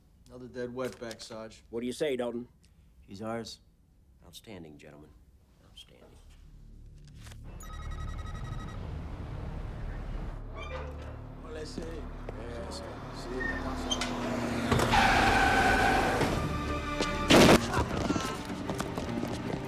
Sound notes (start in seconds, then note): 7.6 text beeping; 10.3 gate creaking; 11.9 people speaking Spanish; 14.2 tires screeching; 14.2 van revving; 16.7 tense music; 17.3 gunfire clattering; 17.7 gangsters screaming